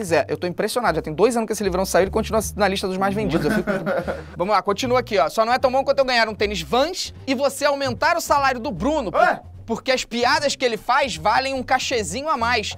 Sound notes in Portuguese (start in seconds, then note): 3.2 risadas